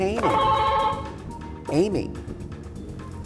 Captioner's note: buzzer buzzing